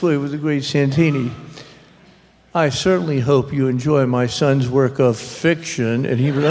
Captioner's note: laughter